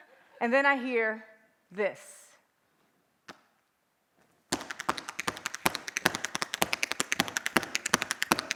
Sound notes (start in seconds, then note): 2.8 tapping